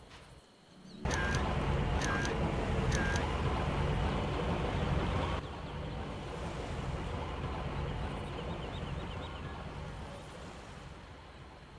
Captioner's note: distant bird cawing